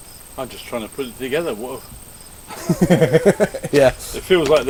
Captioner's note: laugh